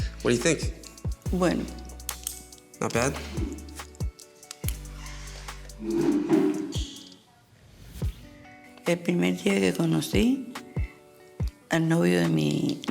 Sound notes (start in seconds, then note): 5.8 chairs scraping; 9.3 speaking Spanish